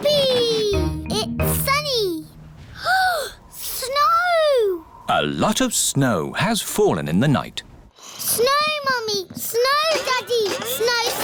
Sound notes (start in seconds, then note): 2.7 gasps